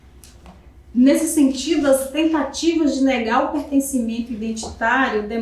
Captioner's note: speaking portuguese